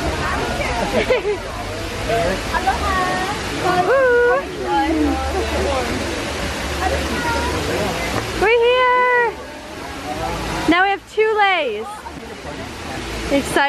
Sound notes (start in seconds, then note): 0.8 laughing